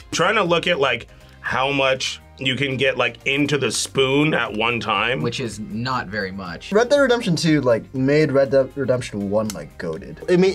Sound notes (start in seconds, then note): none